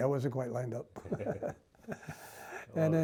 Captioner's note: laughs